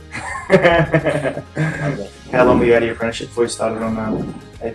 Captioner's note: laughs